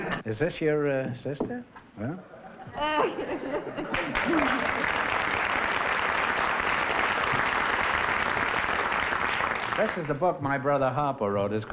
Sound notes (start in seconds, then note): 3.8 applause